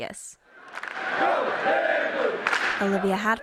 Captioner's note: chanting